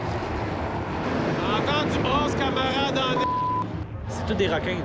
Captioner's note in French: bip